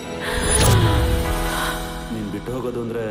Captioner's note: gasps